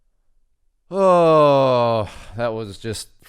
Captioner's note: groans